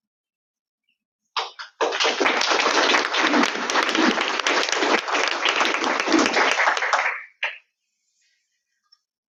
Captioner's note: audience clapping